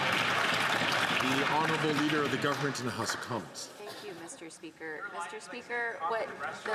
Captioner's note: some Applause